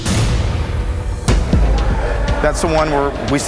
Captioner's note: chatter